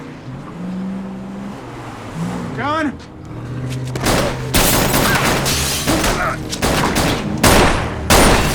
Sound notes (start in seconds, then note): 3.9 gunfire